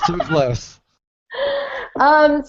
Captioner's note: laughing